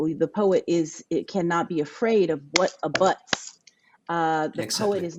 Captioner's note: clapping